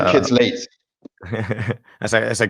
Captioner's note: chuckles